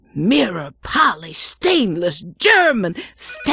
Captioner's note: none